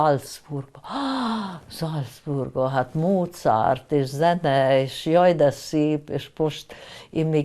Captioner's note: gasping